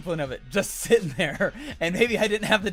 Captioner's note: laughs